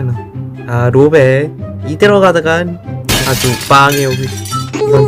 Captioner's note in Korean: 쨍그랑